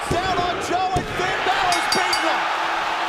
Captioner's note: bell ringing